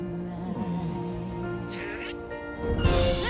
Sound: quacks

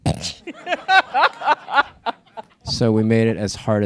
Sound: laughter

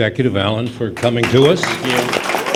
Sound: applause

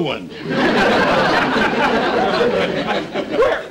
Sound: audience Laughing

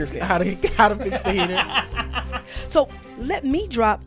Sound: laughter

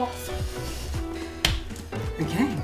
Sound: slap

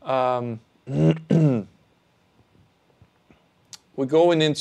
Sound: clears throat

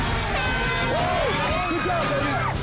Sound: cheering; air horn blowing

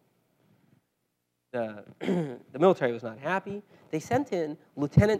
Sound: cough

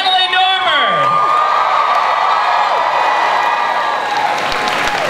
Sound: cheering, applause

